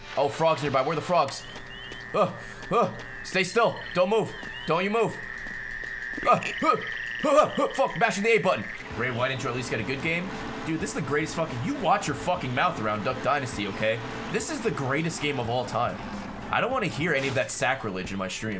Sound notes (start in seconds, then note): 6.1 hunting effort noises